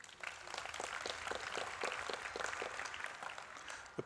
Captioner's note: applause